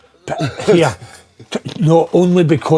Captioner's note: laughing